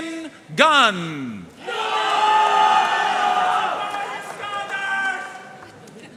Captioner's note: audience cheering and applauding